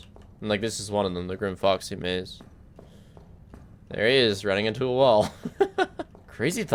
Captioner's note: laughs